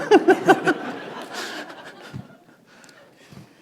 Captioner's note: laughter